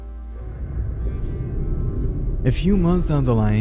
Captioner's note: air whooshing